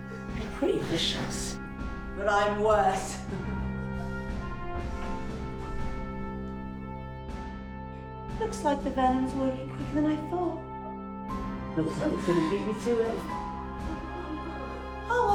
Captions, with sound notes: They're pretty vicious. But I'm worse. (laughing) (dramatic music) Looks like the venom's working quicker than I thought. Looks like you're gonna beat me to it. (dramatic music)